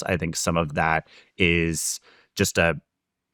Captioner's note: none